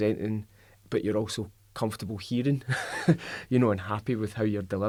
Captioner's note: laughs